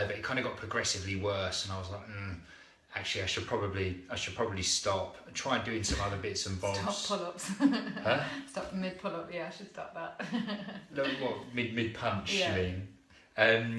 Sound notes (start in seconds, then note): 10.1 laughter